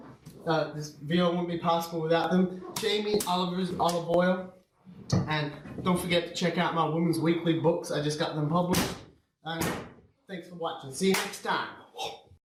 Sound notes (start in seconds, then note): 2.7 slaps